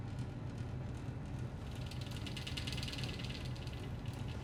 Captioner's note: heating vent rattles